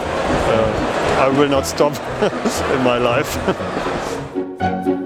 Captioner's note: laughs